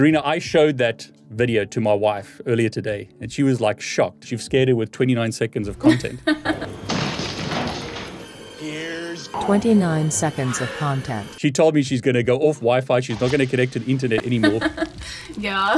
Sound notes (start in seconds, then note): 9.6 voiceover